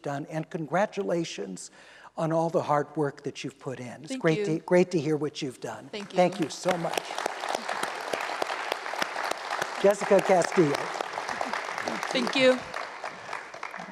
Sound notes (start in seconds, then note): 6.0 applause